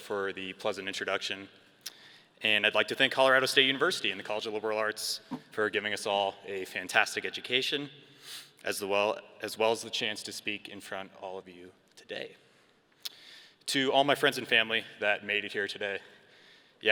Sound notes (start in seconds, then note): none